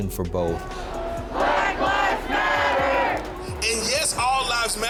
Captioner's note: crowd